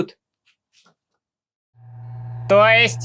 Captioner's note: silence